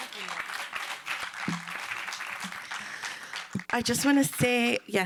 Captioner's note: applause